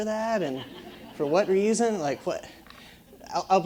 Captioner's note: laugh